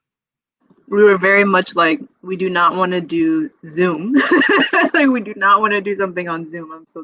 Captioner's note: laughs